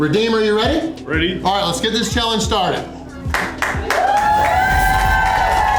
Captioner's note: crowd cheering